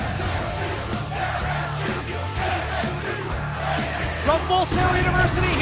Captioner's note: crowd cheering